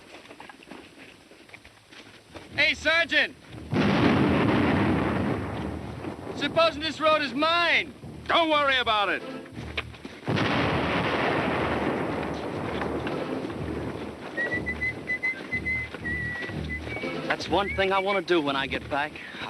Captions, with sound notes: Hey, Sergeant. [BOMB EXPLODING] Supposing this road is mined? Don't worry about it. [BOMB EXPLODING] [WHISTLING] That's one thing I want to do when I get back.